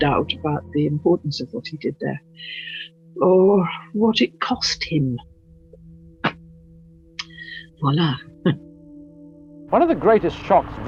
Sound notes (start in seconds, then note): 8.7 laughs